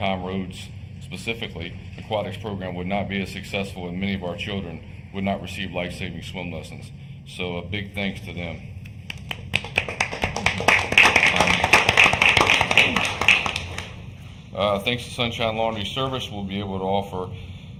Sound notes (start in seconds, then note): 14.2 applause